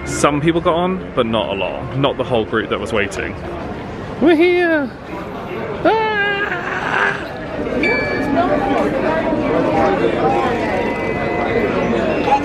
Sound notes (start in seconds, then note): 6.4 screams; 8.0 electronic beep